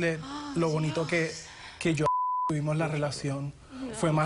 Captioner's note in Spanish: suspira; Bip